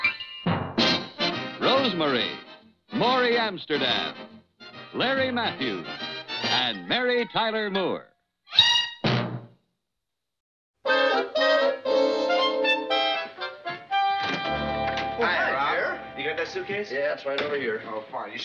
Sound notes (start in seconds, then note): 14.2 door opening